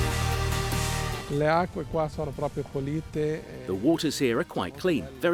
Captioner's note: speaks in foreign language